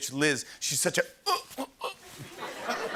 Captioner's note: asphyxiating